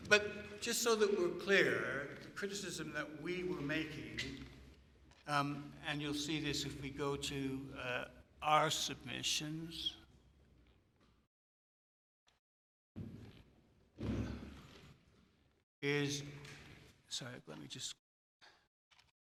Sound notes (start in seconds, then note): 14.7 pause